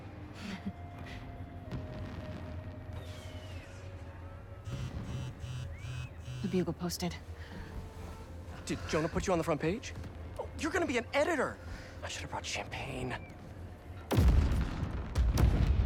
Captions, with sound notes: (laugh) (phone buzzing) The Bugle posted. Did Jonah put you on the front page? Oh, YOU’RE GONNA BE AN EDITOR! I should’ve brought champagne.